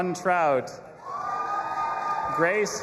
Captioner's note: audience applauding and cheering